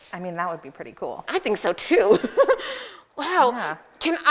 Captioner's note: giggles